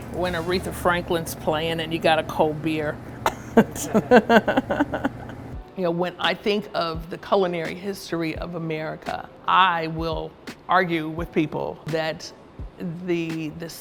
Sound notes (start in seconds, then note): 3.2 laughs